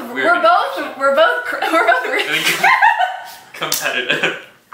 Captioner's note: senseless laughter